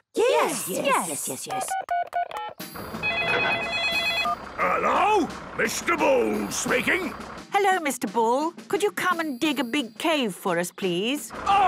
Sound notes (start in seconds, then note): 1.5 phone beeping; 1.6 phone ringing